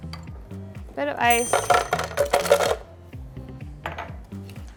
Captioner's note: ice clinks; glass clinks